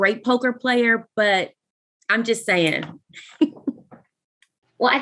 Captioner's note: laughs